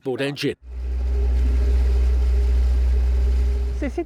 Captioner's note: motor running